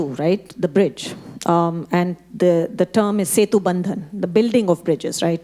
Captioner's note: speaking Hindi